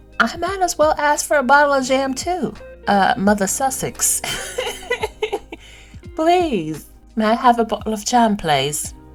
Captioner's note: British accent